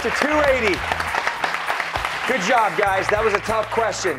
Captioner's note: cheers and applause